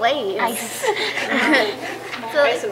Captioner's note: laughter